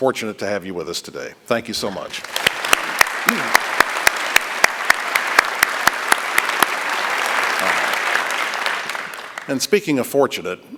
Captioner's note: applause